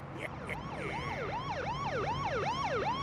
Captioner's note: laughs maliciously; police siren wailing